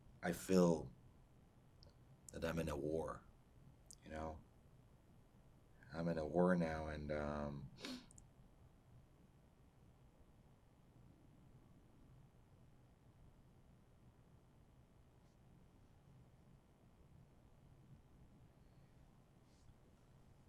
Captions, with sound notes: I feel that I'm in a war, you know? I'm in a war now, and [PAUSES 12 SECONDS]